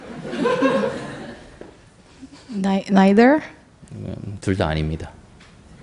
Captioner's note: audience Laughter